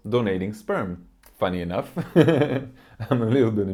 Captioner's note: laughs